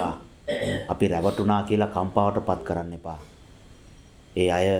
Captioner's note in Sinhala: උගුර කෑරීම